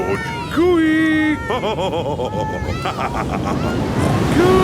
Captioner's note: laughs